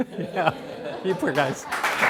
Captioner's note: applause